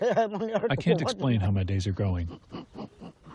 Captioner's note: through translator